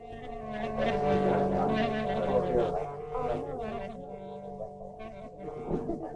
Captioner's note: soft folk music; customers chattering